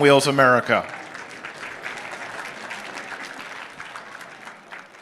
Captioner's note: applause